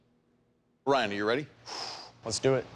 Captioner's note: exhales